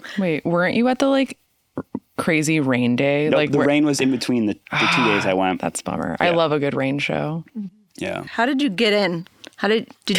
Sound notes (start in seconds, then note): none